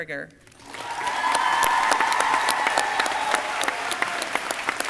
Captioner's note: crowd cheering